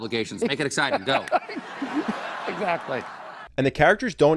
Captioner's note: Carrell and audience laugh